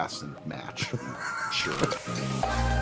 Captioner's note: laughs